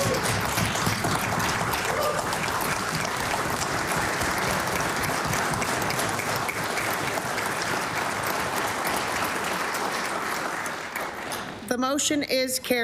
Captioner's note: applause